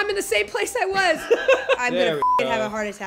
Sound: laughing

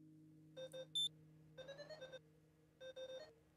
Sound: beeping

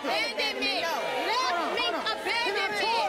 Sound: audience booing

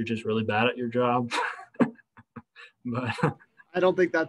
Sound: laughter

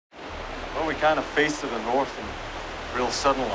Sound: rushing water

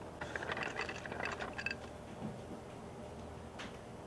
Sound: rattling

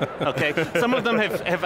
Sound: laughing

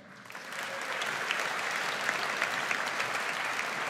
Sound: audience applauds

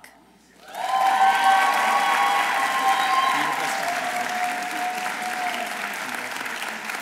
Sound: audience applauding; audience cheering

